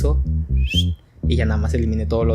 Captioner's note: cool whistle.mp3